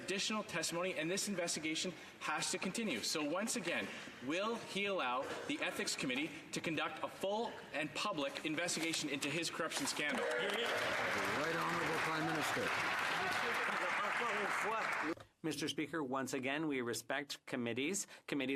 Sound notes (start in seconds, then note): 13.3 some Applause; 17.8 speaking French